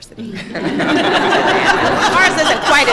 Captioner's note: laughter